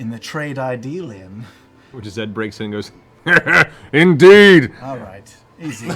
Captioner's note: chuckles